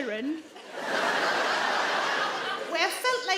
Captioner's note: audience laugh